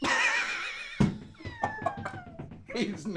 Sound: uproarious laughter

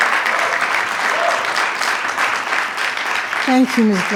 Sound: attendees clapping; attendee cheers

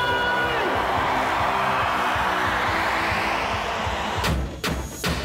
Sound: crowd cheering

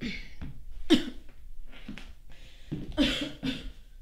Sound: coughs

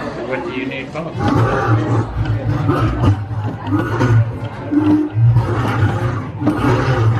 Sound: growling

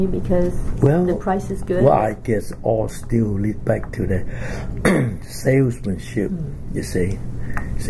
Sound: coughs

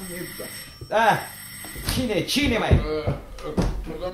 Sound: knocks on the door

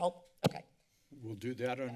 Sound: mic thump

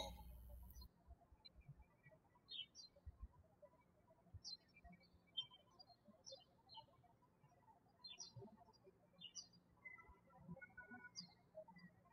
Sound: birds chirping

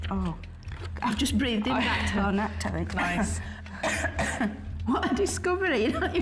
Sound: coughs

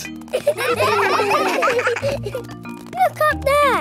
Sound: children laughing

